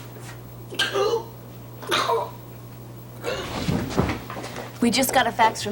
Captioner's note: groaning and gasping